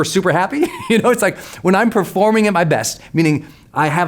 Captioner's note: laughs